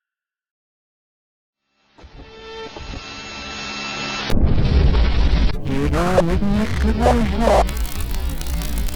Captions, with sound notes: [loud glitchy noise] λϝᴉ��ɑlnმuᴉƨ ԍμϝ lᴉɑμ llⱯ